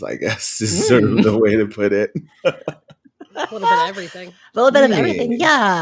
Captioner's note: laughs